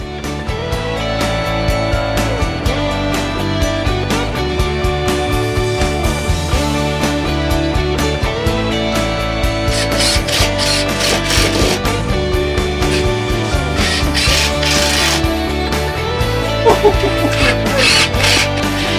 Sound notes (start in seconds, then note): 0.2 rocking music; 9.6 drill whirring; 16.5 laughing